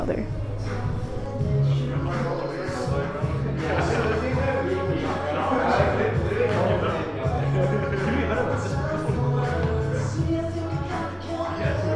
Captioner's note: indistinct chatter